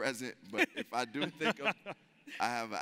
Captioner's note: laughs